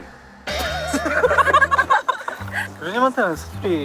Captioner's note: in disbelief